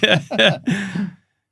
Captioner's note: both laughing